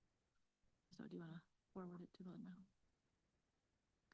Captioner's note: speaks faintly